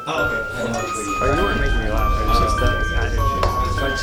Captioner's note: holiday music; people chattering